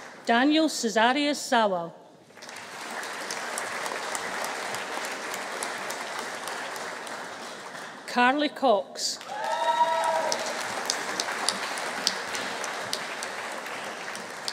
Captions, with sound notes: Daniel Cezariusz Zawal. (AUDIENCE CHEERING) Carly Cox. (AUDIENCE APPLAUDING) (AUDIENCE CHEERING)